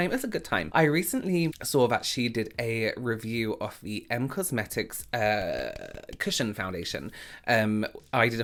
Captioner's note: none